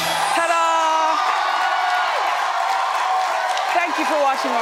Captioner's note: audience cheers